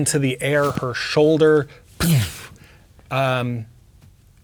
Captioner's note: imitates explosion